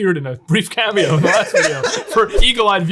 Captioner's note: laughing